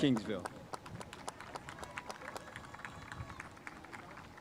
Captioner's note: spectators applauding